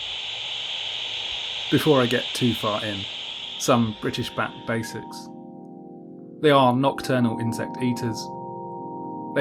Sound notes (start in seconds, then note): 0.0 static fades out; 4.7 lilting electronic music fades in